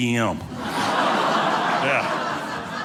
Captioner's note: audience laughing